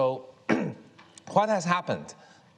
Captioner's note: Kai-Fu coughs